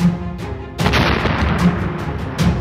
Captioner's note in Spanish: explosión